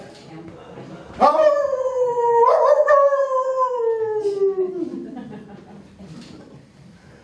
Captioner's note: howling